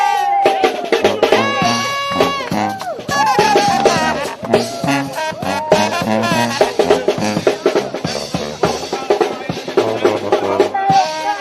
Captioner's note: cheering and applause